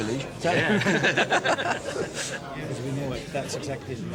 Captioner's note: both laughing